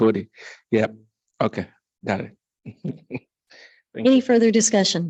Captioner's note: chuckles